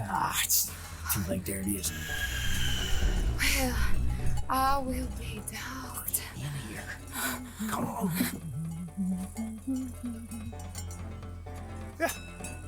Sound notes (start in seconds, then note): 8.3 humming; 9.0 metal clanking